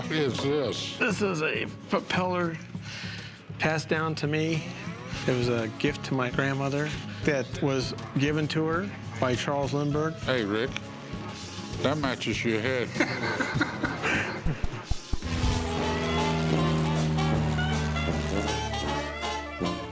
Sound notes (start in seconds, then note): 12.9 laughter; 15.0 whirring; 16.2 ragtime music